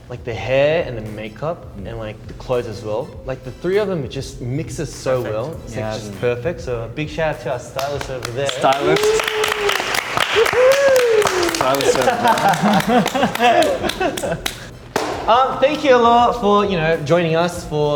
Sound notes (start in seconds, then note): 10.0 applause And Cheering